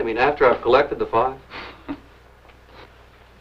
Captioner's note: chuckles